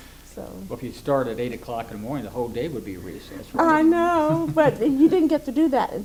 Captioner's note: laughs